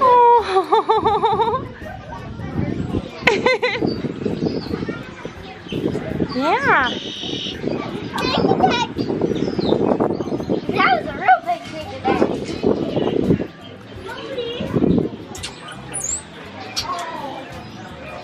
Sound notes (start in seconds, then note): 0.2 laughs; 8.3 mumbles